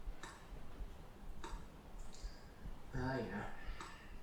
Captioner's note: mouse clicks